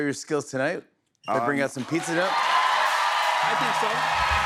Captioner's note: cheers and applause